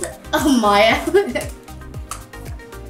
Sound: laughs; upbeat music

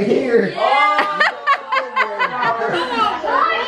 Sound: laughing

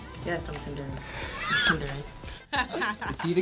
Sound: laughing

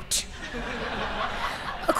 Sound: laughter

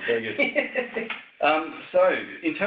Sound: laughs

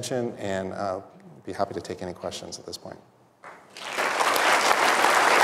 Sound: applause

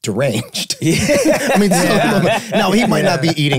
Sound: group laughing

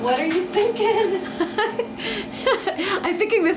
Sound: chuckles

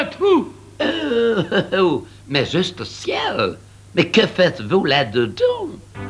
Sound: chuckles

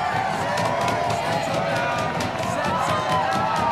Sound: cheering; banging on desks

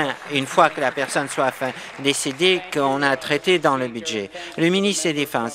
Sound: applause

